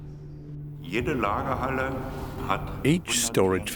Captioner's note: speaking German